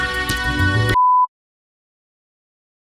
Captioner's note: beeps